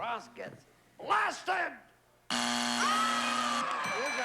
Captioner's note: buzzer